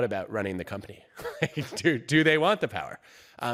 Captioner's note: laughs